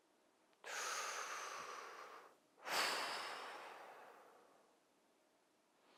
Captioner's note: breathing